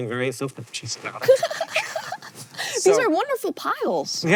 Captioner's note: BOTH giggle